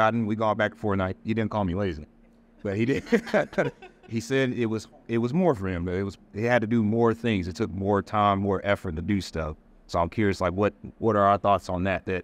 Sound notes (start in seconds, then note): 2.8 all laughing